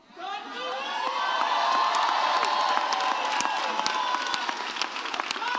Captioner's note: audience cheers